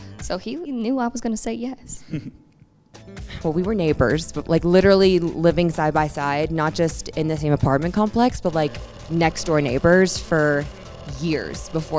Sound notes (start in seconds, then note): 2.0 laughs